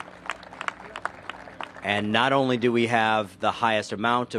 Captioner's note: applause